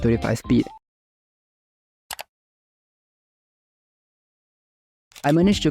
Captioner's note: awkward silence